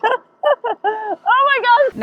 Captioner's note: giggles